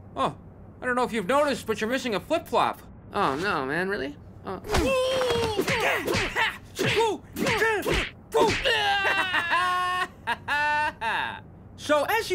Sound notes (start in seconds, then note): 5.1 moaning in pain; 6.6 fighting sounds; 8.6 victorious laugh